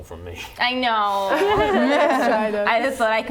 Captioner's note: laughing